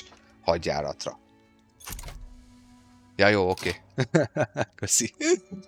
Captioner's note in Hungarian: nevetés